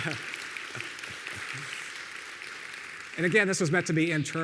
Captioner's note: audience applauding